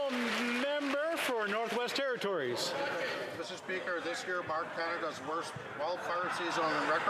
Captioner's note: some Applause